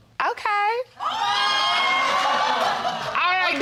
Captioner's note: exclaiming